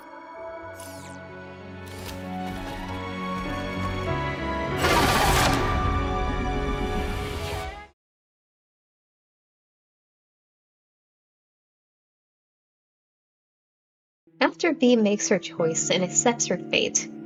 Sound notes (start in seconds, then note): 4.8 sentinel roaring; 4.8 steel ropes snapping